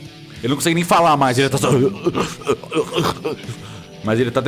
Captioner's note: uuugh